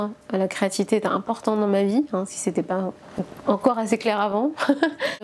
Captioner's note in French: rires